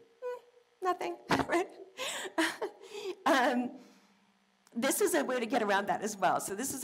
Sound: laugh

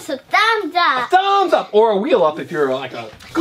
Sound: voiceover

